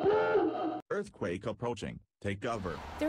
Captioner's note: alarm sounds